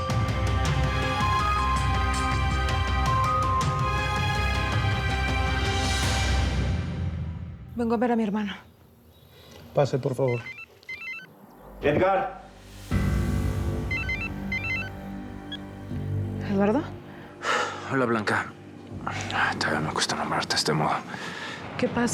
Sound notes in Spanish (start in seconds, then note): 11.8 suena el celular